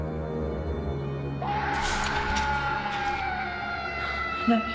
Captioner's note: sinister scream